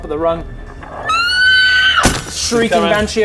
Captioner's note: eeeeeeeeeeeeeeeeeeeeeeeee